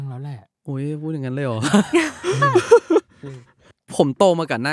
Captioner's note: laugh